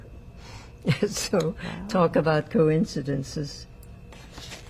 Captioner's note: laughing